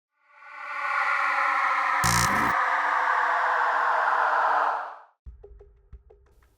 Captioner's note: dramatic music; electronic buzzing